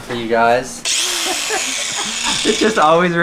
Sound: electronic saw buzzing

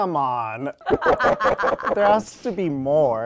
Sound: Sherry laughing

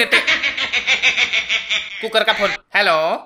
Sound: phone ringtone

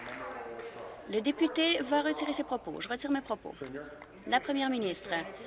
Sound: applause

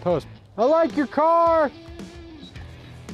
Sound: shouts

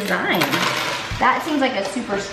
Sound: rattling

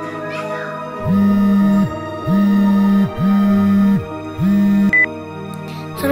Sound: ringtone

